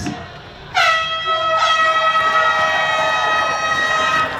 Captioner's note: starting horn blares